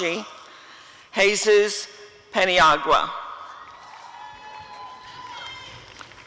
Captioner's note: applause and cheering